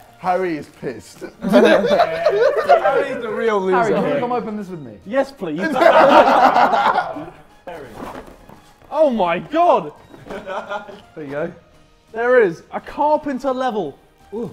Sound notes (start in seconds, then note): 1.3 laughs; 5.6 Sidemen laughing